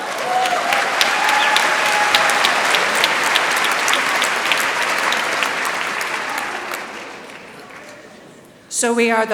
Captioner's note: applause